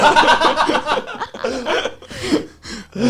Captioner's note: laughs